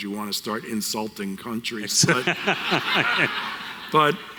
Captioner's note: audience Laughter